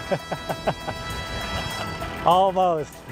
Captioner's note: laughter